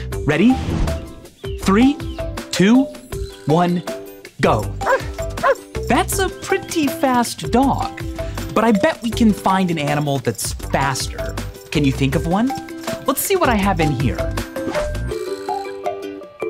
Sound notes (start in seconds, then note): 4.8 barking